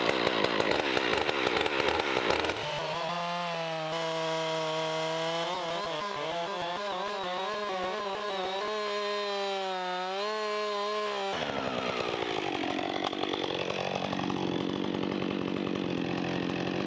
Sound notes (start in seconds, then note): 2.9 electric saw whirring